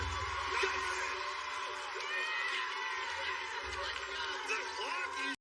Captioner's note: cheers and applause